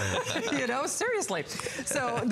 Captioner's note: laughter